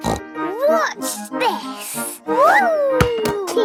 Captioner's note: snorts